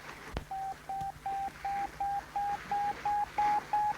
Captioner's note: radar beeping